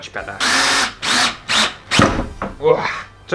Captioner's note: drill Sounds